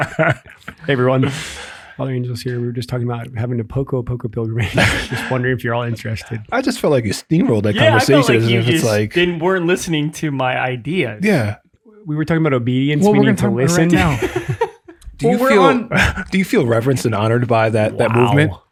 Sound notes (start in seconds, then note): 0.0 laughs; 4.6 laughs; 13.0 group laughs